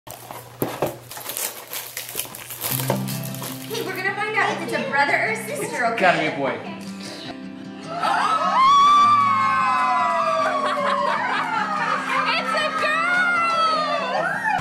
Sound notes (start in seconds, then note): 7.8 cheering